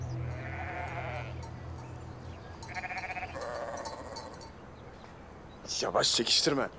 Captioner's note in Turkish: Hayvan Sesleri